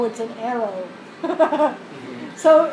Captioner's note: laugh